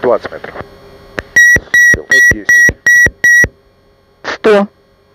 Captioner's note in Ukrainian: Звук відключення автопілота